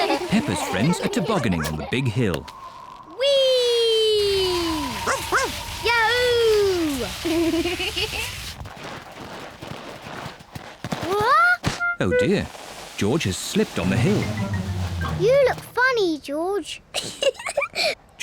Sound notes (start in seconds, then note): 2.4 wind whistling; 5.1 barks; 7.3 giggles; 17.3 giggles